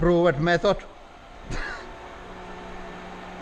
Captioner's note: chuckles